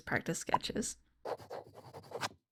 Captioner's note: handwriting scratches